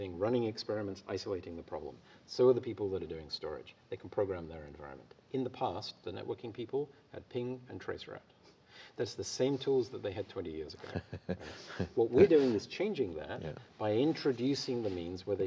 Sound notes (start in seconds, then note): 10.8 laughter